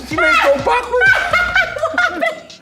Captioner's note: laughing